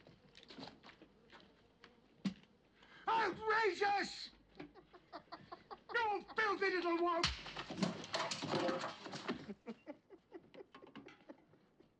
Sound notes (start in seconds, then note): 4.6 lawrence laughs